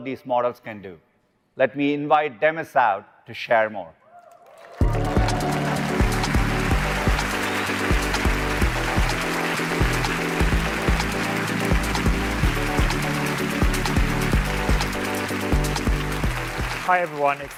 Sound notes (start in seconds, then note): 4.2 applause